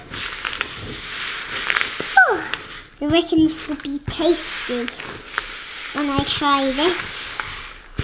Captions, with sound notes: (sighs) I reckon this will be tasty when I try this.